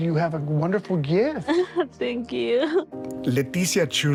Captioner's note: chuckles